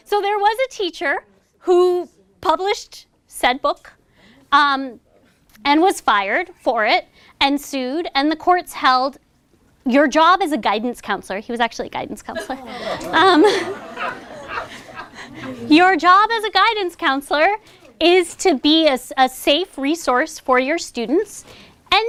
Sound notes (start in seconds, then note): 12.3 laughter